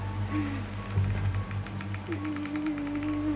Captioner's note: voice whimpers; whimpering